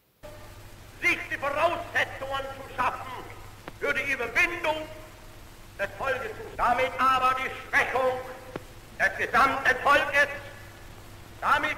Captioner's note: German speech